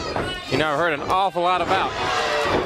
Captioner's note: crowd chatter